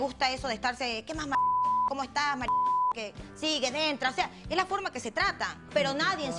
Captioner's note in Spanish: Bip